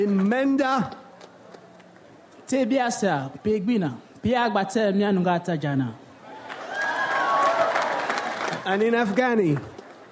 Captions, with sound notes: - In Mende. (speaks in foreign language) (audience applauds) - And in Afghani.